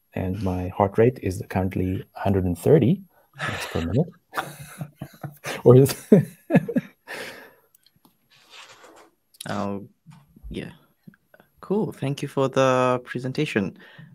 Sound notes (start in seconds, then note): 3.4 all laugh